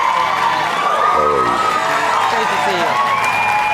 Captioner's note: applause